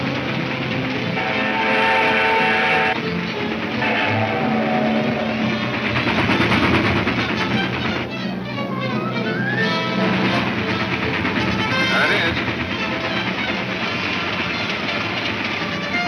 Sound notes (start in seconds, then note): 1.1 whistle trumpets; 9.1 train engine chugging